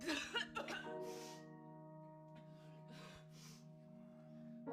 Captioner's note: Ava sniffles